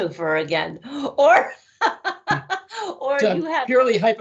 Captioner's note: laughing